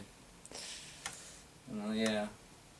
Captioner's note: Arnold inhales sharply